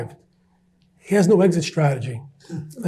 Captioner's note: audience chuckles